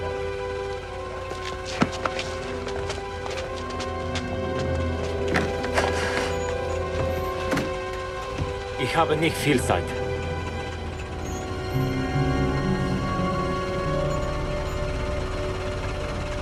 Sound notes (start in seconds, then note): 8.9 speaking foreign language